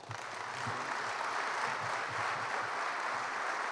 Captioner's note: applause